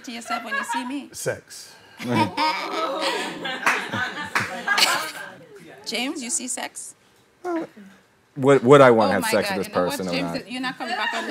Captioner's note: haha